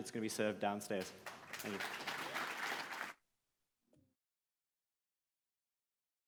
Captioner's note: audience applauding